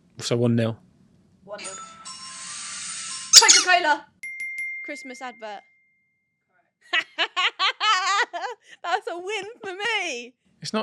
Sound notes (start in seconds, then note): 4.2 cheerful jingle plays; 7.0 right host laughs